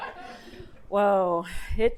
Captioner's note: audience laughing